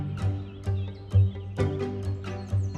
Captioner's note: birds chirping